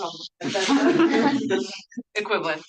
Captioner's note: everyone laughing